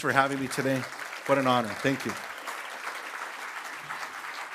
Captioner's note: applause